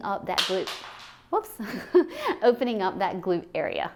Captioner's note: sound of bone from pelvis falling